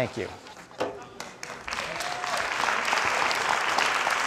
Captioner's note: crowd applauding